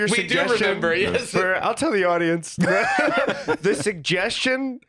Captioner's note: laughs